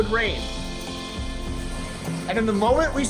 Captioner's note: heavy wind and rain